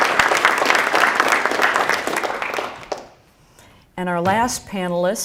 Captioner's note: applause